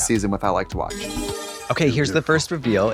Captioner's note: bright chime